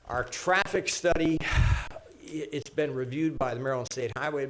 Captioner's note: sighs